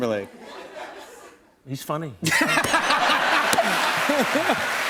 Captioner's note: laughter and applause